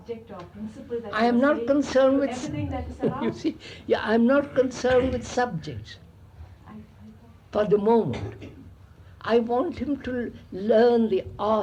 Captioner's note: laughs